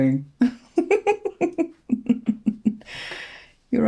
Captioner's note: laughter